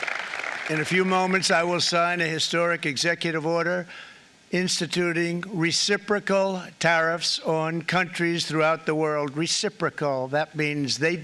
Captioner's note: applause